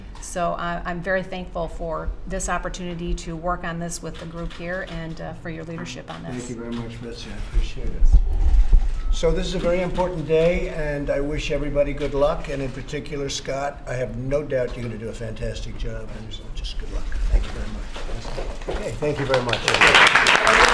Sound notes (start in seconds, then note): 19.0 applause